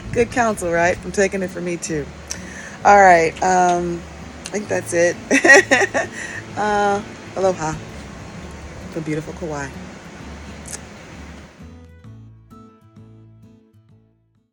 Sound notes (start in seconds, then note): 5.2 laughs; 10.0 gentle music